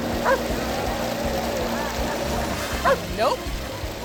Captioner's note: dog barks; mud spattering continues